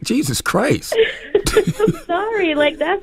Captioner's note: laughter